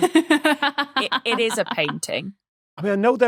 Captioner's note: laughs